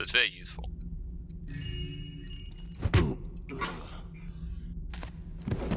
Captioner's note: joyous chime, blackjack thuds